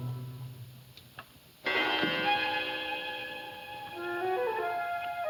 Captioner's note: clock chimes; slow suspenseful music